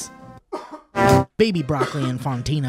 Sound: coughs

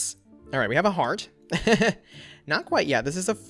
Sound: laughs

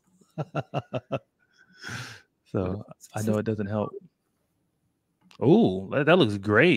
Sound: laughs

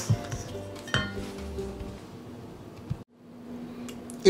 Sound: clanging

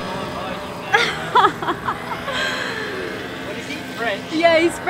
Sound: laughing

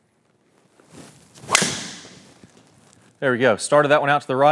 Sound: ball cracking

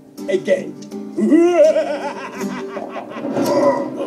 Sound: maniacal laugh

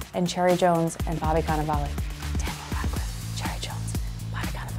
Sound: whispers

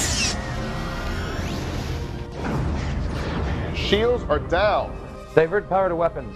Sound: explosion

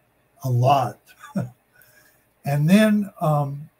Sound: laughs

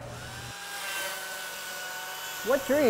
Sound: saw whirring

